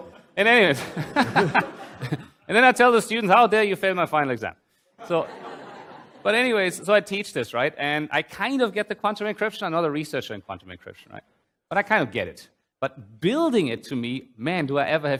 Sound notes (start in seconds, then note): 0.7 laughs; 5.0 laughter